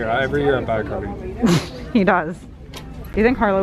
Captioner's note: laughing